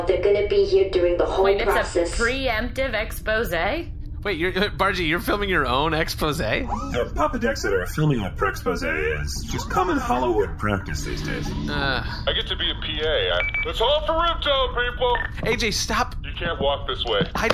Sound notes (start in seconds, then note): 14.9 device beeps